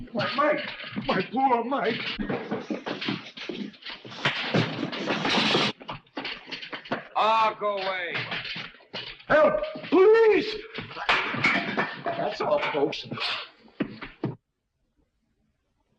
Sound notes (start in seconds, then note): 4.6 blows thudding